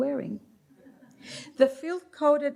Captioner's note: light laughter